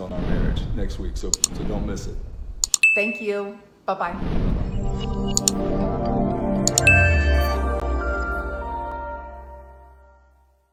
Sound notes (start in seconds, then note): 2.6 mouse clicks; 2.8 bell rings; 4.6 mouse clicks and bell rings